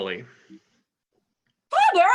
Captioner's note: yells